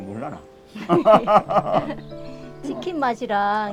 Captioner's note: both laughing